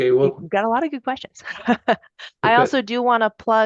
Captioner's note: laughing